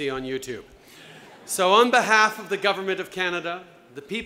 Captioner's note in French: Rires